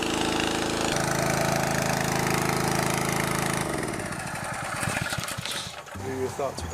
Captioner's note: small engine sound quits; subdued group chatter